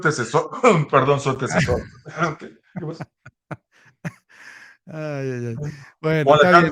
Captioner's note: laughs